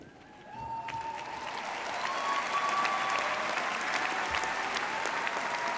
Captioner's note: audience cheering and applauding